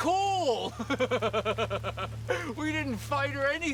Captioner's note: Noah laughing